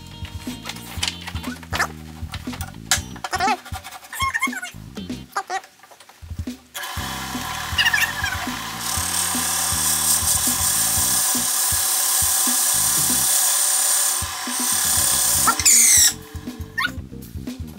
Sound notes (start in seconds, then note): 1.3 high speed squeaky voices